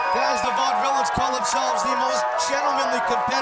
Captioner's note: crowd cheering